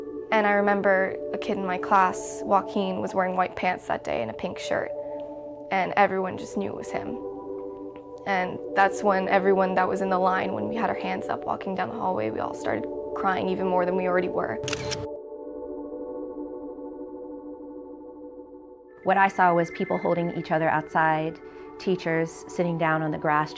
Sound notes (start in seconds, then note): 14.6 camera clicks